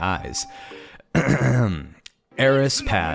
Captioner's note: clears throat